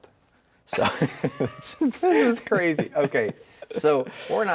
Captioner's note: laughing